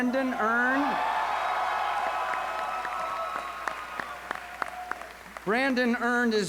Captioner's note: applause